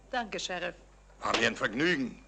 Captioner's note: hand slaps